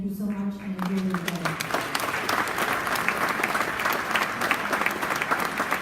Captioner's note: applause